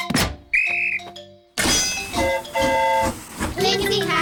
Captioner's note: blows whistle; train horn toots